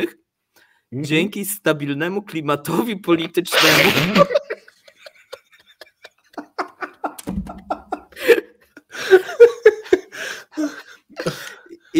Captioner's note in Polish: śmiech